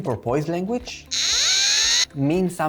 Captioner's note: porpoise sound